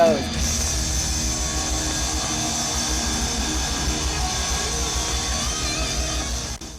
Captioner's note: audience cheering; rock music ends